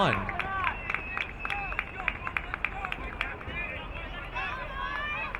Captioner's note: crowd clapping